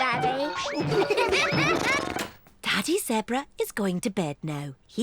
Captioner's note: all giggle